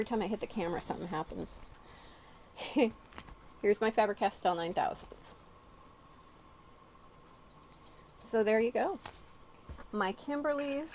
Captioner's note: giggle